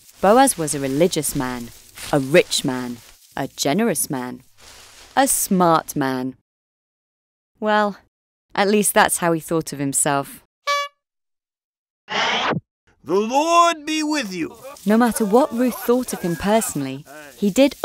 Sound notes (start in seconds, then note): 10.6 horn honks